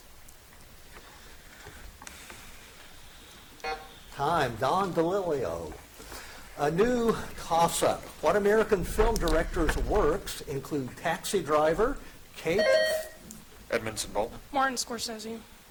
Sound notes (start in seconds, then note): 3.6 buzzer buzzes; 12.5 buzzer dings